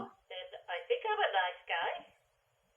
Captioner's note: Cataliss still talking on Radio